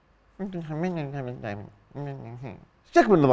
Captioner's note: mockingly